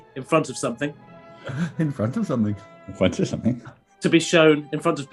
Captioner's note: chuckling